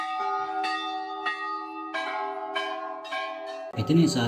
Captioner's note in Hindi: घंटी की आवाज़